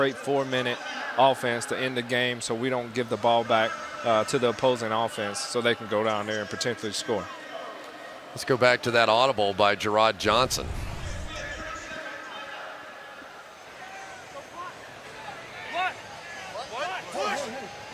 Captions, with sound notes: is having a great 4-minute offense to end the game so we don't give the ball back to the opposing offense so they can go down there and potentially score. Let's go back to that audible by Jerrod Johnson. [pa announcement] What? What?